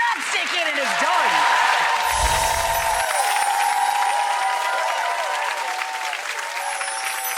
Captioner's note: crowd applauds